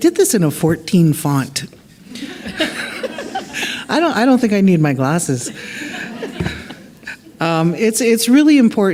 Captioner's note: laughter